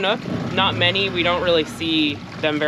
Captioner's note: boat engine running